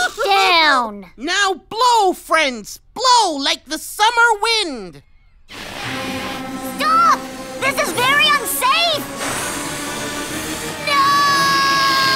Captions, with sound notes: NOW BLOW, FRIENDS! BLOW LIKE THE SUMMER WIND! (INFLATING) STOP! THIS IS VERY UNSAFE! NOOOOOOOOO!